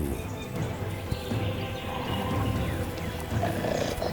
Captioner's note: birds chirping